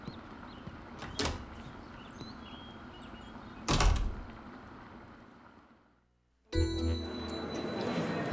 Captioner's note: door opens, closes